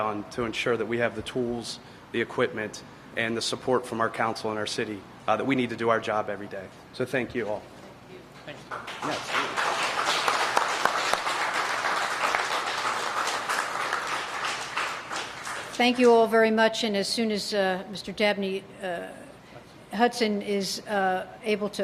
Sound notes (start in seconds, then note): 12.2 applause